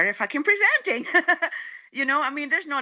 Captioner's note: laughing